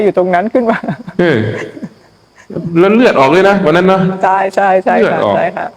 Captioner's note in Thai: เสียงหัวเราะ